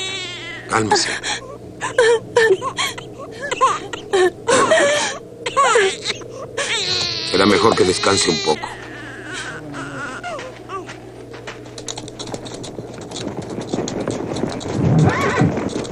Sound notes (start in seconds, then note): 1.8 woman crying